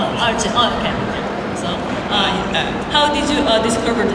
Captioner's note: speaking Korean